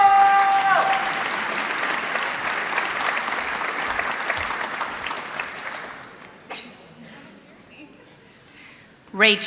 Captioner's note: applause